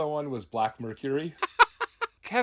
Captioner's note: laughing